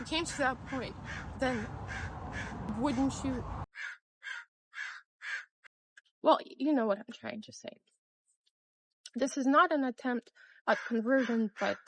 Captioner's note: caw! Caw!; cawing continues